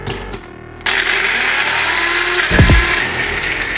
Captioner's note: blender